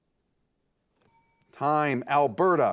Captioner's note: timer beeping